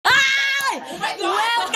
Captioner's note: shrieks